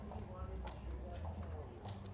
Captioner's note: indistinct chatter